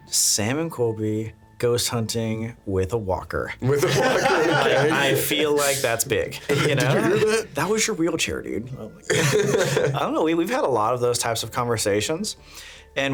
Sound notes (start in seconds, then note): 3.7 laughing; 9.1 laughing